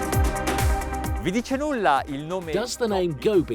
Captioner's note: speaks Italian